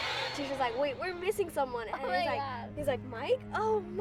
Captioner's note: kids chatting